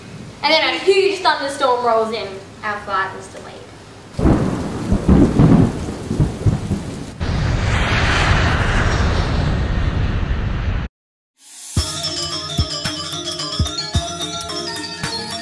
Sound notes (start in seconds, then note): 3.8 rain and thunder sounds; 7.2 plane engine sounds